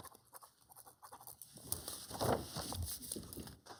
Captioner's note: pen scribbling